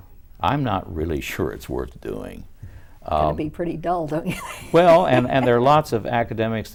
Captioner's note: laughs